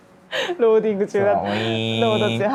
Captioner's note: laughs